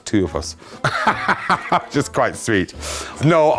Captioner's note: laughs